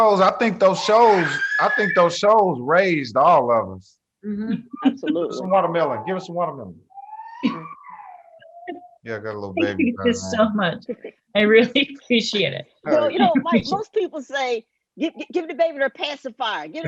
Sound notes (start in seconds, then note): 0.7 child screaming; 7.0 child crying